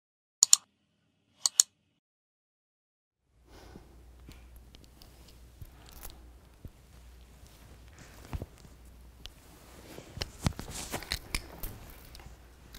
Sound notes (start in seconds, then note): 0.4 mouse clicking; 9.4 blindfold fabric slipping off